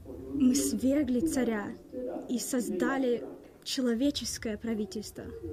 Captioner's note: speaks in foreign language